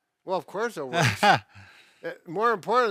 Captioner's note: laughs